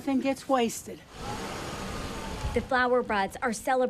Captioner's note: car engine revving